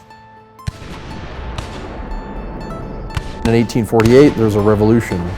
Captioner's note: gunshots